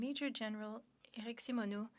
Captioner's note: speaking French